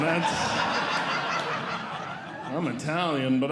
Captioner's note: audience Laughing